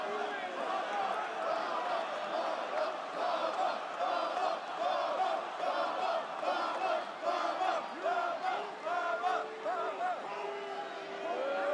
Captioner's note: crowd chants